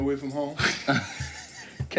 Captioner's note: laughter